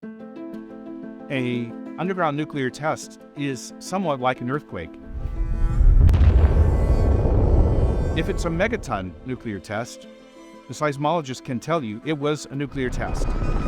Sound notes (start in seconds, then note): 5.0 approaching rumble; 5.0 explosion